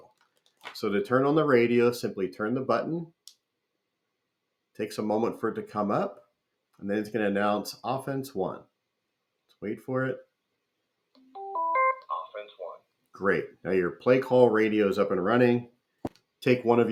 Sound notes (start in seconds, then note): 11.8 radio beeps and says "Offense One"